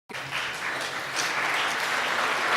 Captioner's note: applause